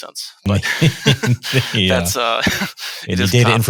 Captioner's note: laughing